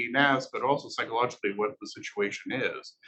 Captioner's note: male Voice